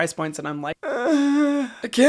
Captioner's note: groans